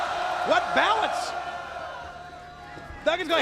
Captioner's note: crowd chatter